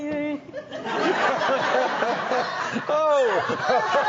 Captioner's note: all laughing